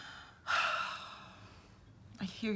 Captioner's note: sighs